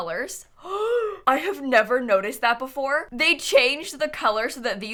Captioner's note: gasps